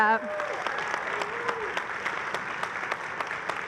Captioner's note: applause